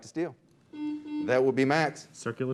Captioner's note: beep